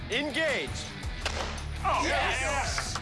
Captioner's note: cheering